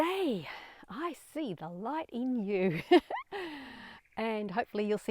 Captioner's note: laughing